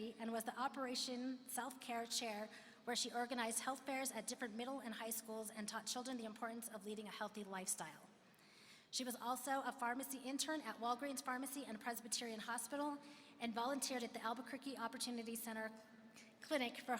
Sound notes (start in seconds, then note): none